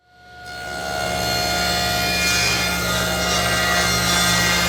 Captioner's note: bandsaw grinding